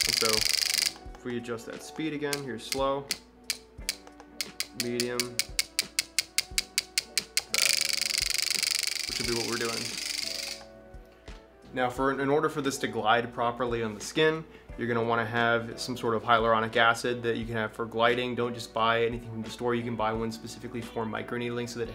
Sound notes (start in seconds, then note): 0.0 microneedle clicking; 5.5 microneedle clicking; 8.0 rapid clicking